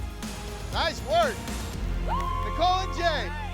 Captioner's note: applause and whooping